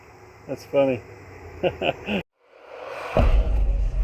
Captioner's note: laughs; suspenseful music